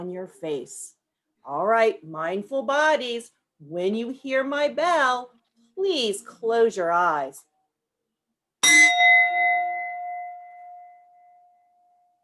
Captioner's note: bell rings